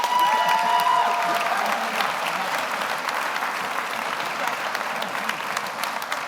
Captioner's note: audience cheers; audience applauds